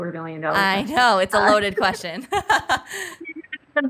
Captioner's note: laughs